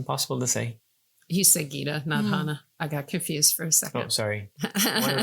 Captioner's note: laughing